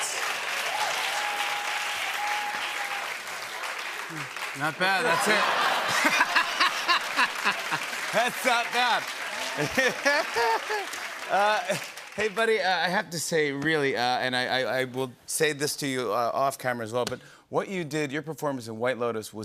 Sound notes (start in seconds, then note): 0.2 applause; 5.0 laughter